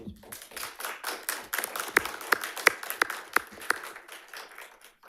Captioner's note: audience applauding